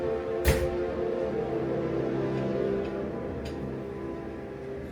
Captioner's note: horns continue blaring